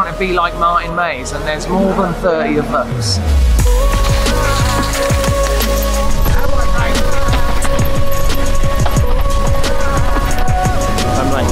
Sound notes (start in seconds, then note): 0.1 murmurs; 3.3 dramatic music